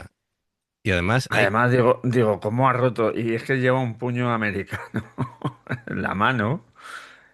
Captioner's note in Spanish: risas